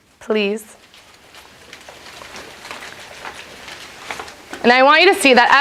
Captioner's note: paper crumpling